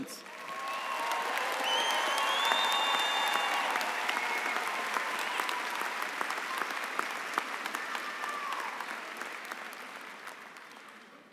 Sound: applause and cheering

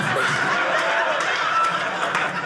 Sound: audience laughing

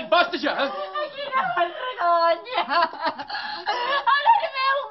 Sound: cries desperately

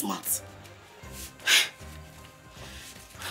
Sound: sigh

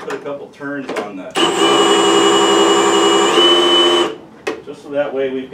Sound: drill noises

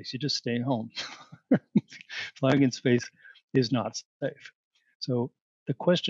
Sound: laughter

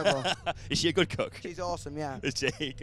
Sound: laughs

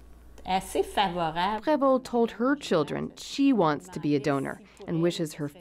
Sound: speaking French

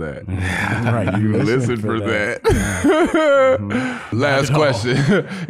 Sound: laughs

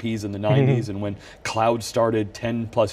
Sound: laughs

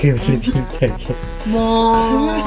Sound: all she can do is laugh

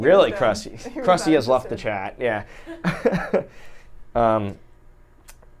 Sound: chuckles

